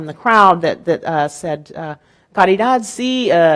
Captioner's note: speaking in Spanish